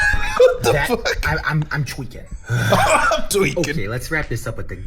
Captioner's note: laughing